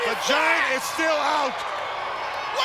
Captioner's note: crowd cheering